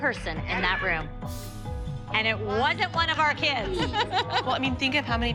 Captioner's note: laughter